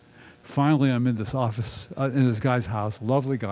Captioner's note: none